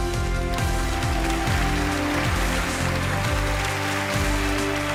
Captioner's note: audience applauding